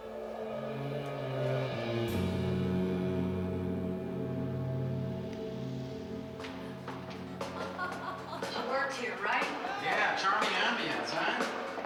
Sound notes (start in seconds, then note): 6.5 laughing